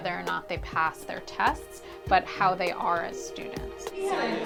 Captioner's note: students discussing with each other